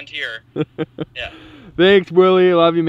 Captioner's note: laughs